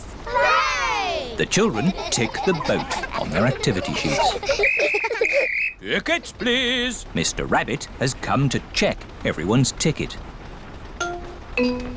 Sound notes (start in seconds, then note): 4.6 blows whistle